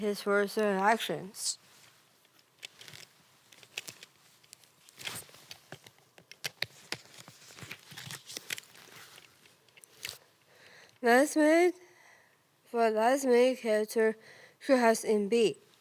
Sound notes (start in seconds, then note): 1.7 rustling and clicking